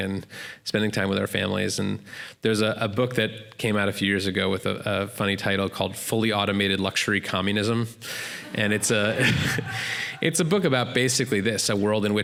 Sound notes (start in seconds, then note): 8.4 laughter